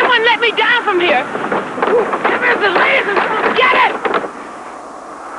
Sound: stamping feet

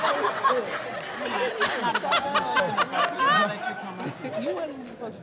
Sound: laughter

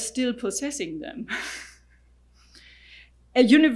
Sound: laughing

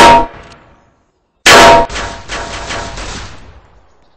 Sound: gunshots

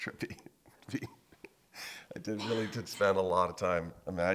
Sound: laughing

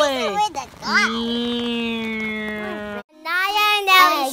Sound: imitates engine rumbling; voiceover

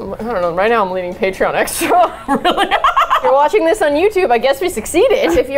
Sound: both laugh

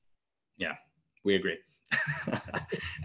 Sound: chuckles

